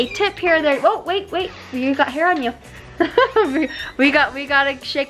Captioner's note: laughs